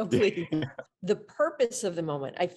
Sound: laughter

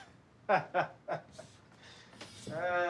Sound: laughs

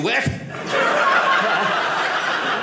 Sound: audience laughing

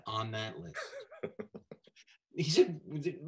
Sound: snickering

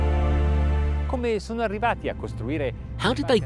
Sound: speaking in foreign language

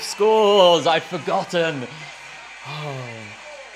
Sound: sighs; laughs

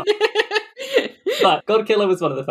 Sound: laughs

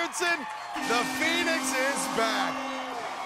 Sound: horn blows; cheers and applause

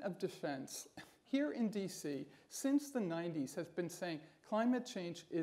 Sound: scoffs

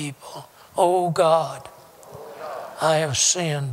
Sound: audience repeats prayer throughout

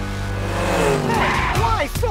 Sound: engines rev

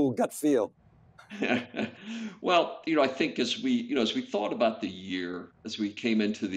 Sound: laughing

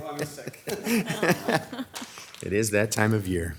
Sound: all laughing

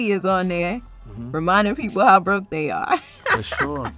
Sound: laughs

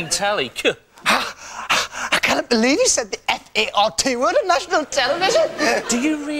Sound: Ant gasps in panic attack; crowd laughs

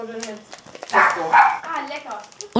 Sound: barking

